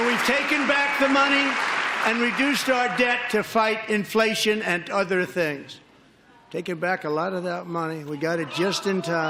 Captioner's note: applause